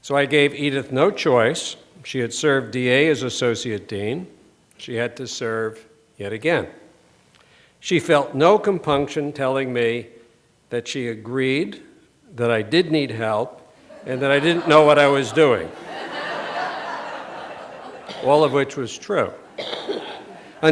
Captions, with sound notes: So I gave Edyth no choice. She had served DA as associate dean. She had to serve yet again. She felt no compunction telling me that she agreed that I did need help and that I didn't know what I was doing. [LAUGHTER] All of which was true.